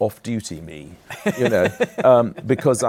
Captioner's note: laughs